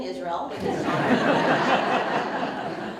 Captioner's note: audience Laughter